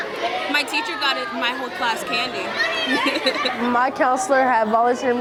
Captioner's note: laughs